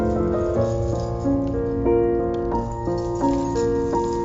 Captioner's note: keys jingling